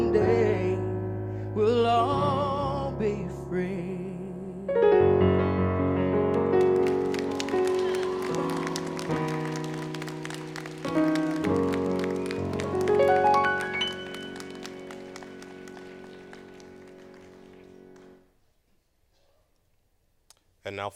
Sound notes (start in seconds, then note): 6.3 applause